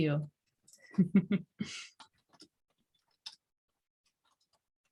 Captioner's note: laughing